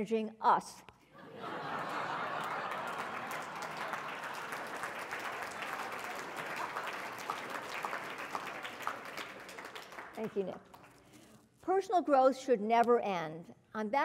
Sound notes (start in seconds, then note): 1.2 laugh; 4.5 applause